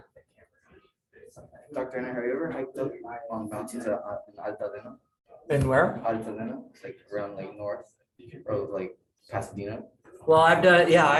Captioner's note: background Discussion